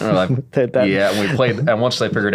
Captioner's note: laughs